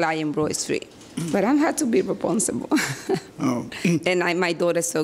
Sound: laughs

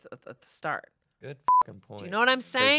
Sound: beep

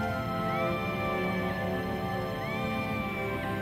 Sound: shrieking

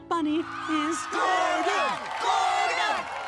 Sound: people cheering

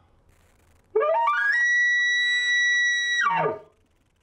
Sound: elk call

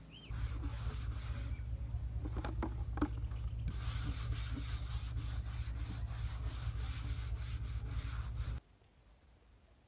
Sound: water splashes; scrubbing

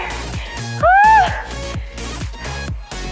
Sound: shrieks; upbeat music

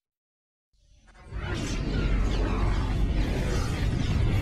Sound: dramatic sounds continuing

